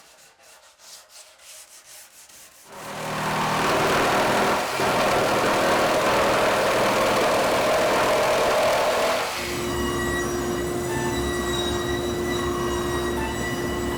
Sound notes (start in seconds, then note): 2.7 cutter whirring; 9.7 machine whirring